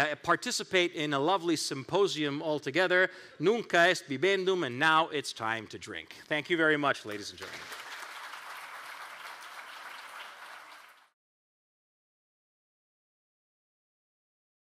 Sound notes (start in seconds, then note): 7.0 crowd applauds